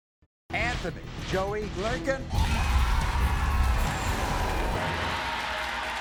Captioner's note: audience yells